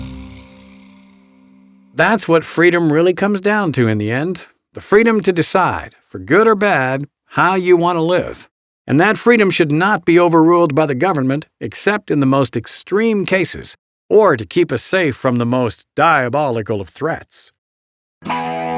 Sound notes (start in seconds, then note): 2.4 voiceover